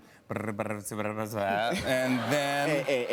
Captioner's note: laughter